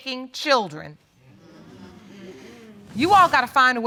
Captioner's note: audience agreeing